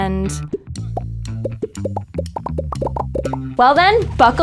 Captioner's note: popping